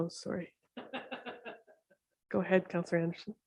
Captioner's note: laughs